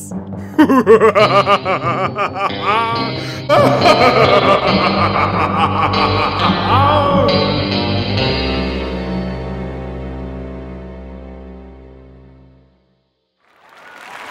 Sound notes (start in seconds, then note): 0.5 laughs; 3.5 distant laughter